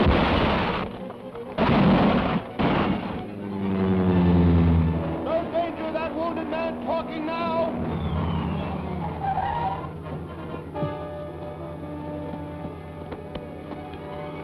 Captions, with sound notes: (car crashes) (plane roaring) - No danger of that wounded man talking now. (brakes screech) (dramatic music)